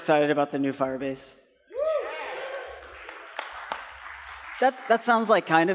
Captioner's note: cheering